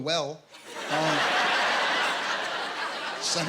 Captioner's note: laughter